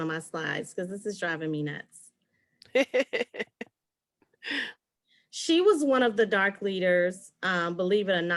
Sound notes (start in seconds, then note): 2.7 laughs